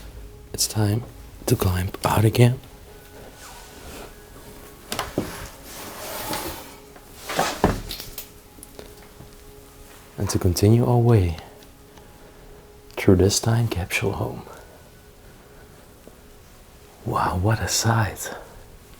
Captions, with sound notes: It's time to climb out again. (Feet shuffling) And to continue our way through this time capsule home. Wow, what a sight!